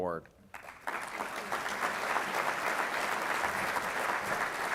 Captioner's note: audience applauding